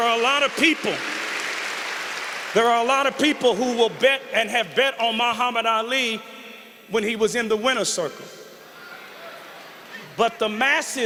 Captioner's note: applause